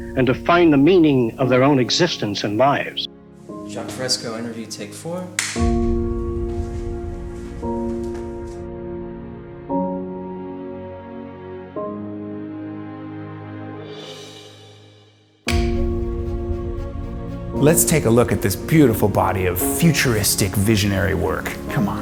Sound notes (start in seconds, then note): 5.4 clap